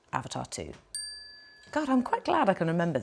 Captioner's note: bell ringing